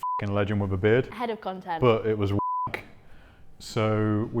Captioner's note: beep; beep